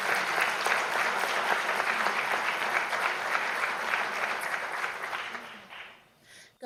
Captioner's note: applause